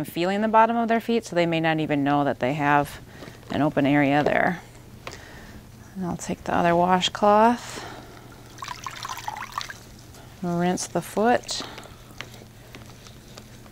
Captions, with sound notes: feeling the bottom of their feet so they may may not even know that they have an open area there. And I'll take the other washcloth, (water trickles) rinse the foot,